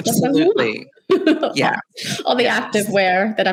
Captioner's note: laughs